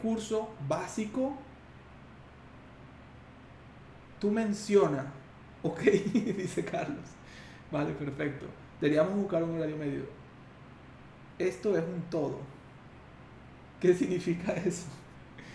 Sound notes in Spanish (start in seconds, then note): 5.8 risas